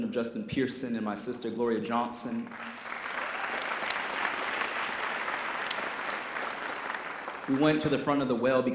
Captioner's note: audience applause